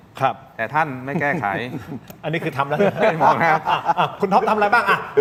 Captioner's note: laughs